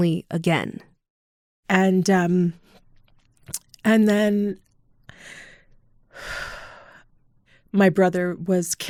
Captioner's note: deep breath